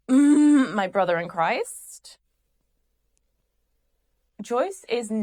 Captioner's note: groans